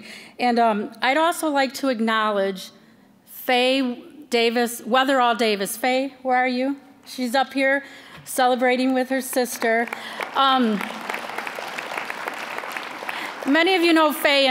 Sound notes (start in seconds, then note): 9.5 applause